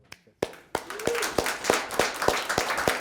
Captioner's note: applause